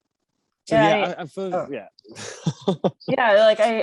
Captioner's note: chuckles